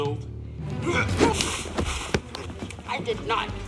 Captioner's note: grunting